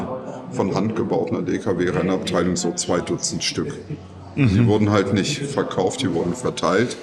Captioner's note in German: räuspern